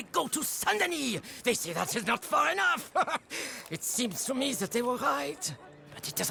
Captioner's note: chuckles